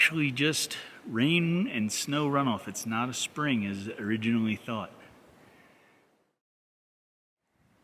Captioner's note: wind noise